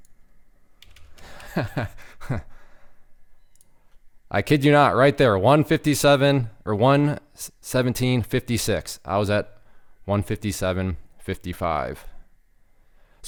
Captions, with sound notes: (chuckles) I kid you not, right there, 157 or 117.56. I was at 157.55.